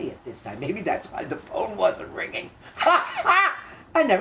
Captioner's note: laughs